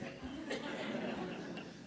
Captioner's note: laughter